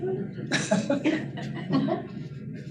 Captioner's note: laughter